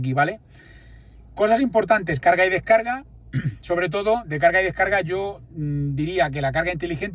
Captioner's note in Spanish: carraspeo